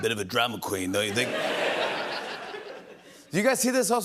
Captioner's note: laughter